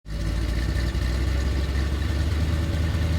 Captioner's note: engine revving